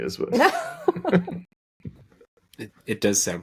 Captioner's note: laughing